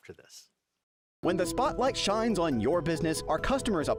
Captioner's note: voiceover